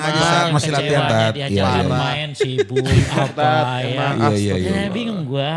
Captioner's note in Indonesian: tertawa